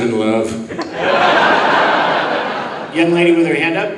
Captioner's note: audience laughing